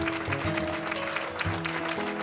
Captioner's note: applause